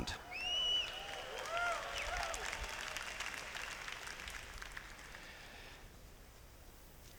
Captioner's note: cheers